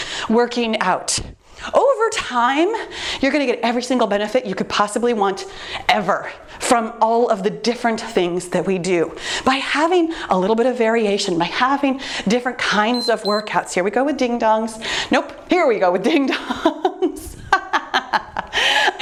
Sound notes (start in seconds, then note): 12.8 timer beeps; 17.2 laughing